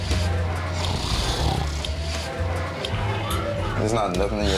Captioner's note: snoring